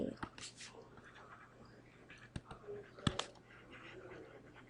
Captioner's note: pen scratching